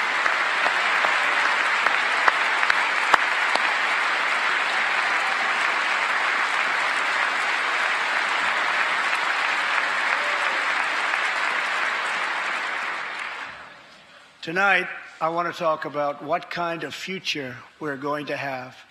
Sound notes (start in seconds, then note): 0.0 cheers and applause; 10.2 applause